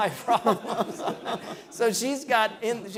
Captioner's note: laughing